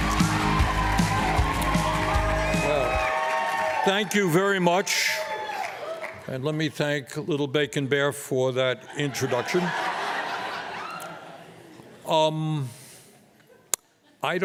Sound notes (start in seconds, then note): 2.7 applause; 12.3 laughter